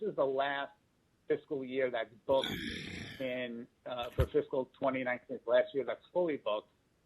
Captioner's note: microphone noise